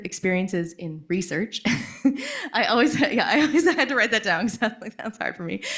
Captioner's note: laughs